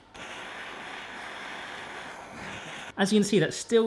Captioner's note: torch hissing